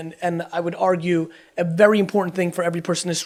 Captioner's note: none